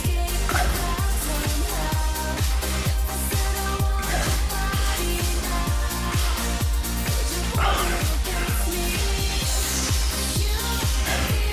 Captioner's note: breathing